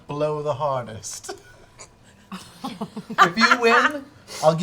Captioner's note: laughter